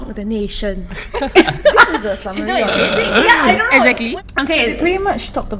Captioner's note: laughing in disbelief